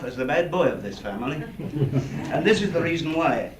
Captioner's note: laughter